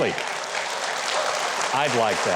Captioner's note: audience applauding